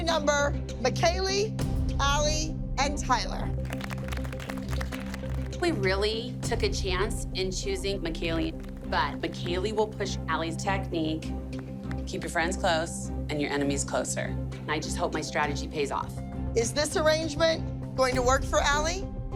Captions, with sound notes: McKaylee, Ally, and Tyler. [soft applause] We really took a chance in choosing McKaylee, but McKaylee will push Ally's technique. Keep your friends close and your enemies closer. I just hope my strategy pays off. Is this arrangement going to work for Ally?